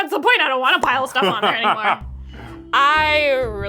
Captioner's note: laughing